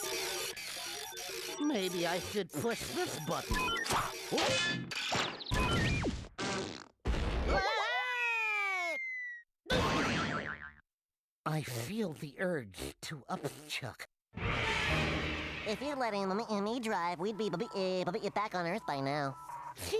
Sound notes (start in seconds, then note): 0.5 beeping; 7.5 Daffy screaming; 15.6 stuttering